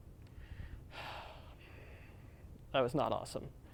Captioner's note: sigh